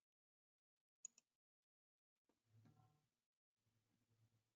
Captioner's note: mouse clicking